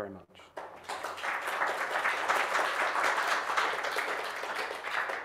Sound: audience applauding

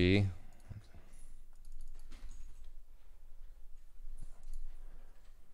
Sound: keyboard clicking

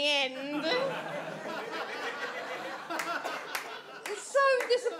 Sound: audience laughs

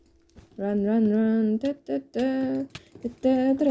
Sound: humming

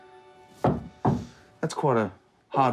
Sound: knocking

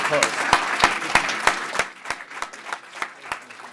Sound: applause

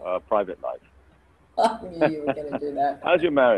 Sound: laughs

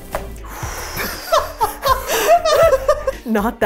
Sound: laughing

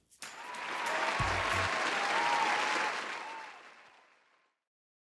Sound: audience cheers and applauds

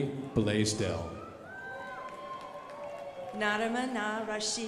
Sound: crowd applauding

